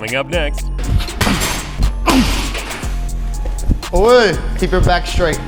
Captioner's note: upbeat R&B music; kick thudding loudly; grunting